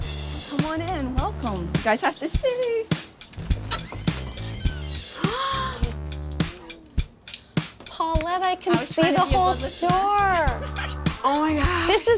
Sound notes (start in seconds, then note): 0.2 upbeat rock music; 5.1 gasping